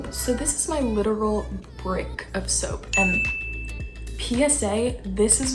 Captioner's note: chime